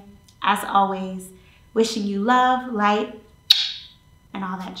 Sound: lips smack

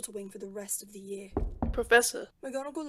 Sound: A knock on the door

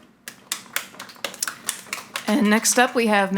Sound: audience applauding

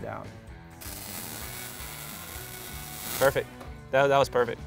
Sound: electricity crackling

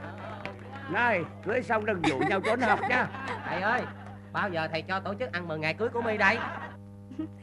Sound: people talking noisily

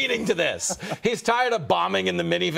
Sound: laughter

